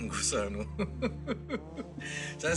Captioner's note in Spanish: Risas